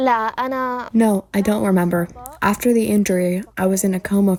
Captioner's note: through translator